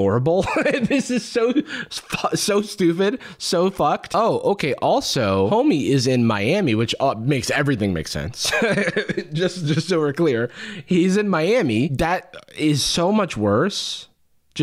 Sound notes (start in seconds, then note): 0.4 laughs; 8.4 chuckles